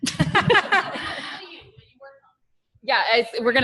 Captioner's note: laughter